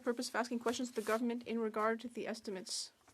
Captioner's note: speaking French